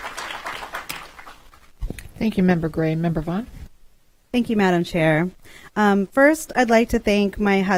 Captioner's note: applause